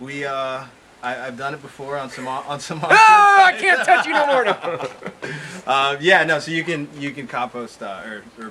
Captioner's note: both laughing